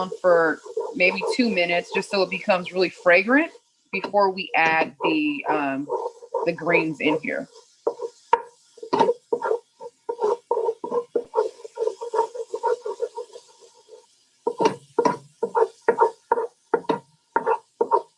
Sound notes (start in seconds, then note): 8.0 garlic sizzling; 8.0 spoon scraping